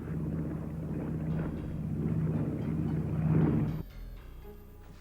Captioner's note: plane buzzing